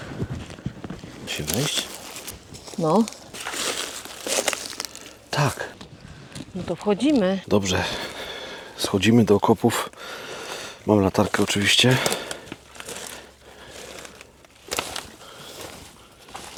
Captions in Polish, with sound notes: Musim wejść. No tak. No to wchodzimy. Dobrze, schodzimy do okopów. [parsknięcie] Mam latarkę oczywiście.